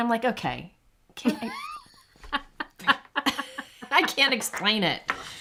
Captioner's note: chuckles